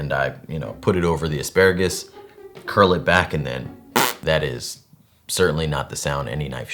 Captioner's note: fart sound